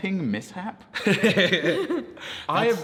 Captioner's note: laughs